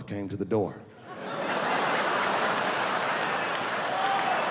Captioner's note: laughing